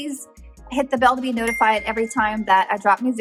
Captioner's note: bell rings